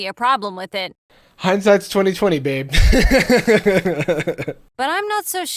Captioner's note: laughing